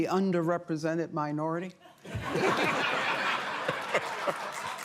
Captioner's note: laughter; applause